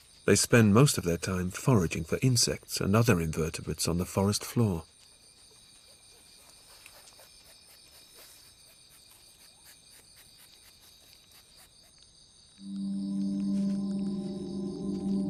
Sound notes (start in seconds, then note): 6.1 sniffing; 12.6 ominous music